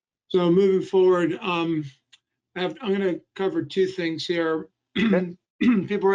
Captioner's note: clearing throat